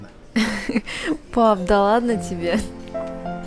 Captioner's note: laugh